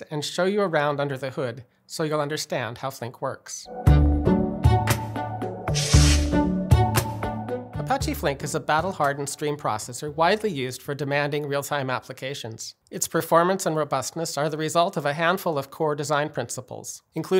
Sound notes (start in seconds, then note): 3.7 upbeat vibrant music; 5.6 text swishing